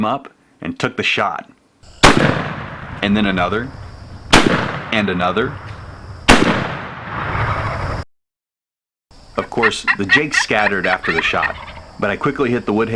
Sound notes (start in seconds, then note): 2.0 bang; 6.3 bang; 7.4 gobbling in the background